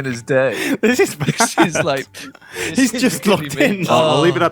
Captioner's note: laughs